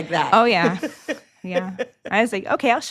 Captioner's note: laughs